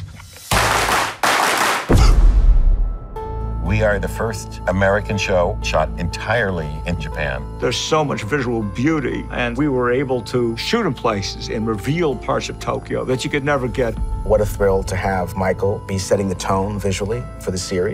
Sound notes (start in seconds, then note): 0.4 rhythmic clapping; 1.7 mimics gunshot